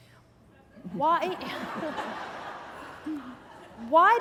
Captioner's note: laughter